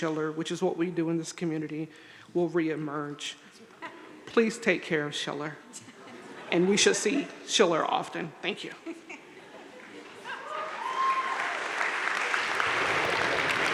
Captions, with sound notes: which is what we do in this community, will reemerge. Please take care of Schiller. And we should see Schiller often. Thank you. (crowd laughing) (crowd applauding)